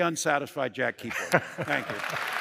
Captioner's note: laughter; applause